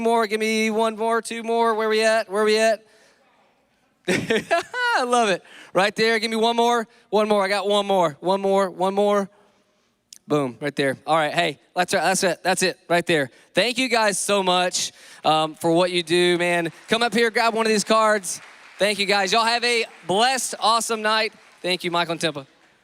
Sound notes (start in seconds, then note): 4.1 laughs